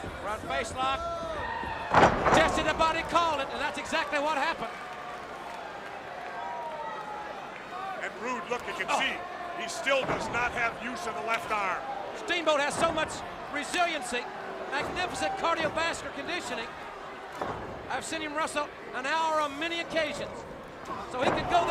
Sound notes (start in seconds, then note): 4.9 crowd chatter